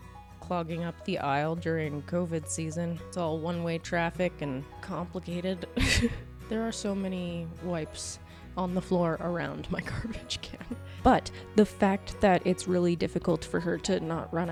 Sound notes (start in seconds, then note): 5.8 laughs